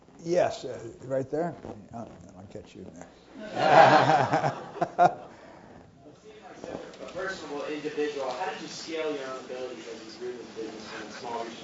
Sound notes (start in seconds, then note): 3.4 laugh